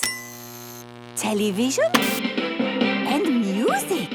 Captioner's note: light bulb buzzing; TV static, show music